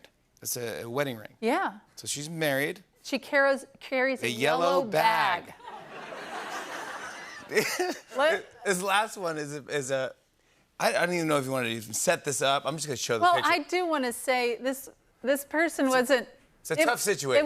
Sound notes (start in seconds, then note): 5.6 laughter